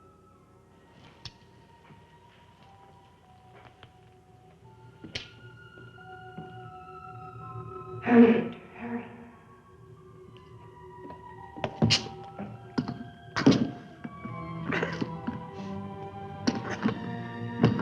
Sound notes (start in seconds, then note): 0.1 mysterious music; 11.9 crowbar thudding; 14.7 Victor grunting; 17.5 mysterious music continues